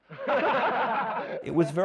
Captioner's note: laughing